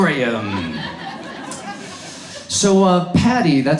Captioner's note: audience laughs